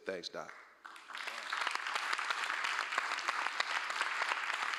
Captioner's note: applause